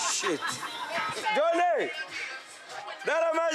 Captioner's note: Portuguese spoken audio